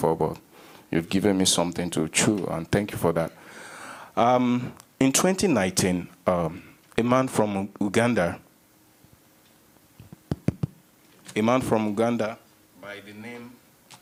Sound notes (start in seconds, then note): 10.0 taps mic